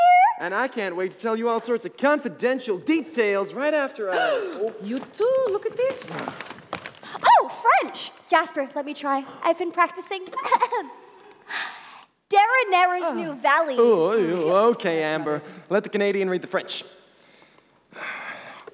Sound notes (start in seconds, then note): 4.1 gasp